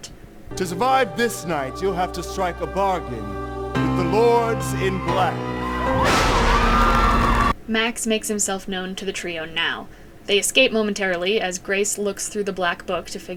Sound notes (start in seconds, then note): 5.7 cheering, lightning striking